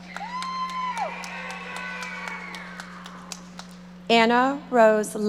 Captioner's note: audience applauding